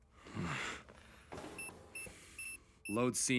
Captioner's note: beeping